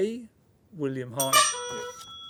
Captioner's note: honk